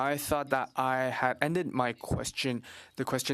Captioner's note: speaking French